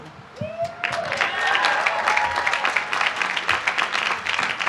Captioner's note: applause